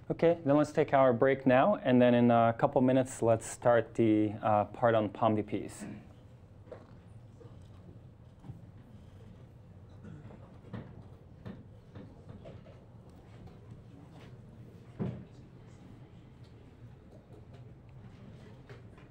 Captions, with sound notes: Okay, then let's take our break now, and then in a couple minutes, let's start the part on POMDPs. (students quietly chatting)